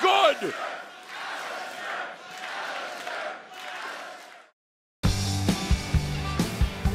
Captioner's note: fans chanting